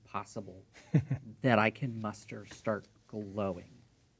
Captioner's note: chuckling